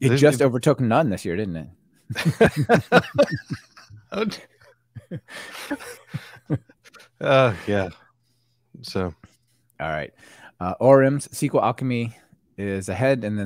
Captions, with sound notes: - It just overtook none this year, didn't it? (both laughing) - Yeah, so. - All right, ORM's SQLAlchemy is ahead